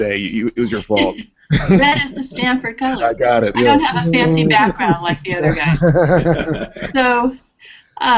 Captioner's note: laughter